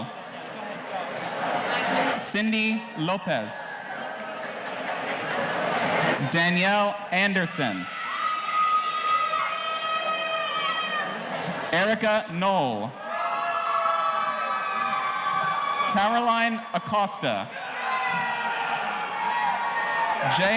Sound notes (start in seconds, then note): 7.2 audience cheering